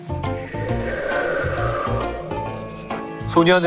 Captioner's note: A sound effect of wind